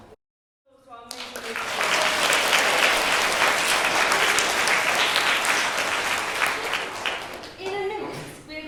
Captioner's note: applause